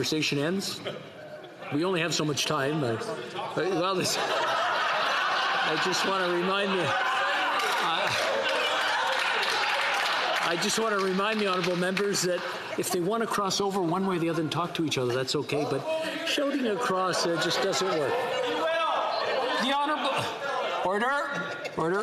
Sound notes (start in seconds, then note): 16.5 laughter